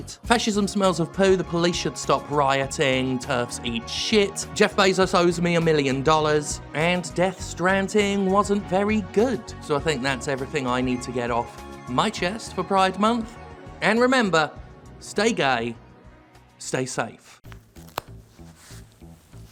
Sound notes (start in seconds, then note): 17.4 quiet snap of adhesive